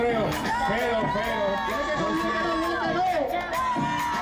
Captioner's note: crowd